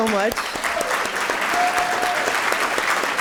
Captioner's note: applause